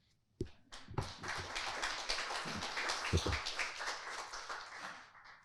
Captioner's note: audience applauding